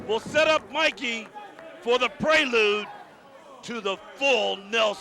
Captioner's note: crowd chatter